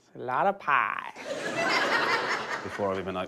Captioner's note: laughter